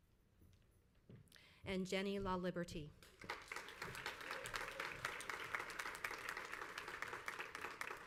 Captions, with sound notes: And Jenny Laliberte. (crowd applauds)